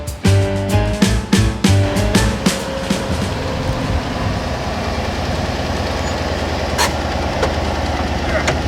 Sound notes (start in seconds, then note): 1.8 loud motor running